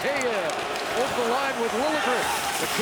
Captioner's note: chanting